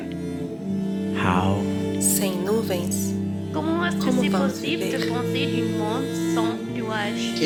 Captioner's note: multiple languages